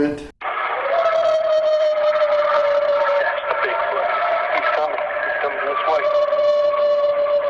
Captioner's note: distorted recording of howls and whispering